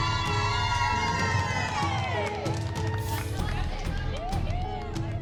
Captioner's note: cheering